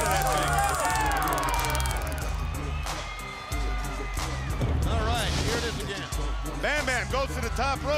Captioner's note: crowd chatter